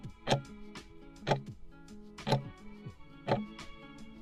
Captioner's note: timer ticking